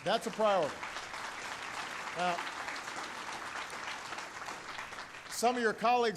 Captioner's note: applause